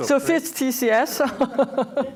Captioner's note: laughing